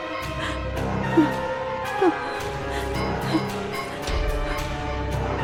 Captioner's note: Barbra whimpering